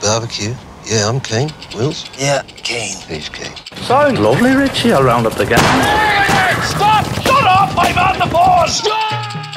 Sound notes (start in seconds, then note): 3.8 Ned Kelly, in a sweet voice; 5.6 shots fired and then a policeman shouts